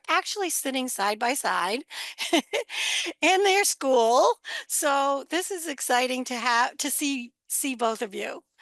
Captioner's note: laughs